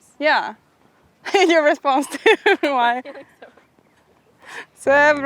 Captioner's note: laughing